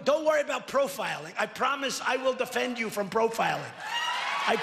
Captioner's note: cheers